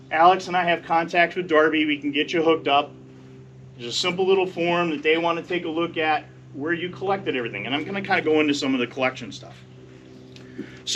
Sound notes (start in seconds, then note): none